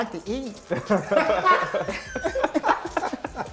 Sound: laughter

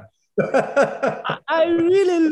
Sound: laughs

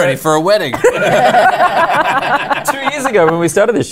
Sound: laughter

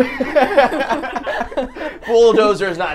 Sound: group laughing

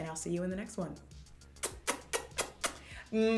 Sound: kisses

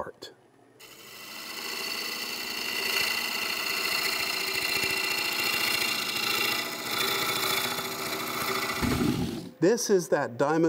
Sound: machine whirring; rattling

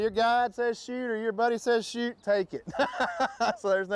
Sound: laughs

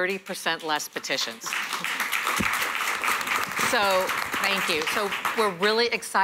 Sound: applause

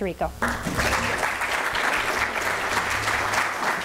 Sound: applause

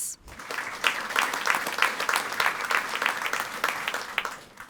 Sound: audience applauding

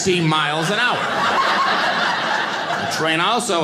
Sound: audience laughing

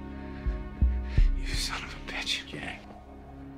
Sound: whispered

